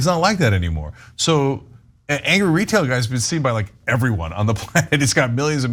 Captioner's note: laugh